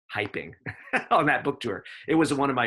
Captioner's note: laughs